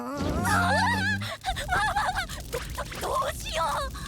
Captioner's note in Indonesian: menangis